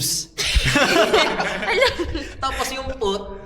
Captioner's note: laughs